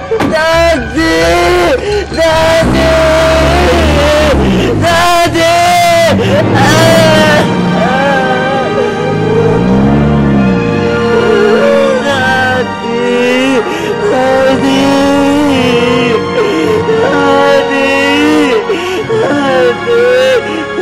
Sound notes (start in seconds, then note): 2.4 engine revving; 6.5 wailing